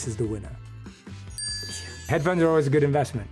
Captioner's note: chime dings